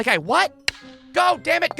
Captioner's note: tick!